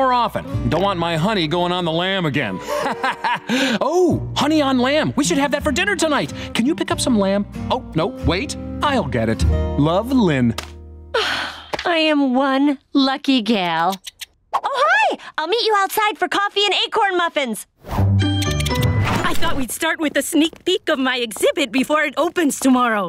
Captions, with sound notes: Don't want my 'honey' going on the 'lamb' again. Ha, ha, ha. Ooh, honey on lamb. We should have that for dinner tonight. Can you pick up some lamb? Oh, no, wait, I'll get it. Love, Lynn." [sighing] I am one lucky gal. [squirrel chittering] Oh, hi, I'll meet you outside for coffee and acorn muffins. [chittering] I thought we'd start with a sneak peak of my exhibit before it opens tomorrow.